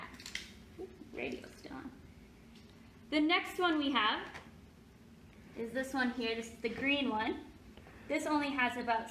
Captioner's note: softly: radio still on